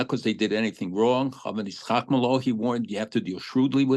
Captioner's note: speaking hebrew